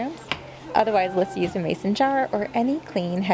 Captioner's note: meowing below